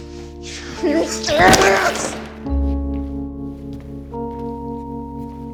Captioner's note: shouts